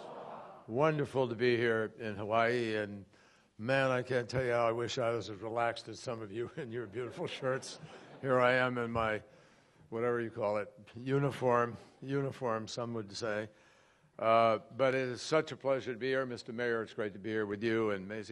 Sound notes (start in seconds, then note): 6.5 laughter